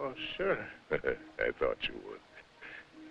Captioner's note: chuckling